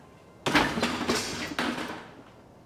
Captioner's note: clattering